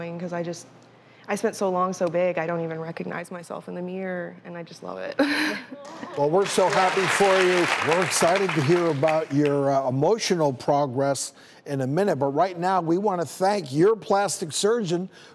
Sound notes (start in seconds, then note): 6.1 applause